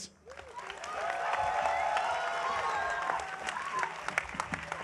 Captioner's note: audience applauding